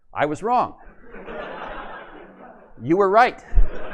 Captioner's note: laughter